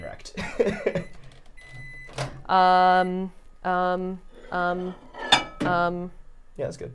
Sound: stammering; microwave beeping

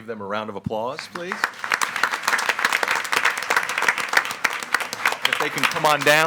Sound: attendees applauding

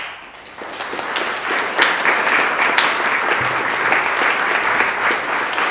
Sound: applause

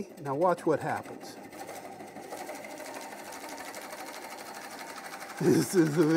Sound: tool scraping

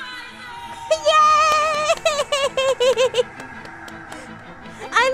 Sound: clapping

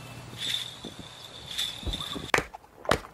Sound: rattles & jingling bells; clapping & horse clomping

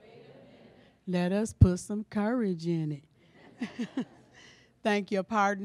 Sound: laughter

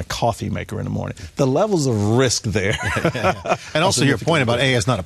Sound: laughs

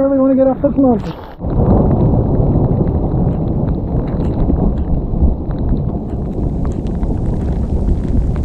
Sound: thunder

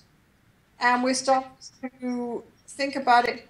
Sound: distorted audio

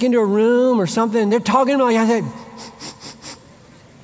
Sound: sniffing

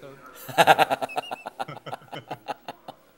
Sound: laughing

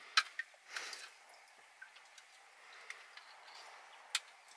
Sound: crunching

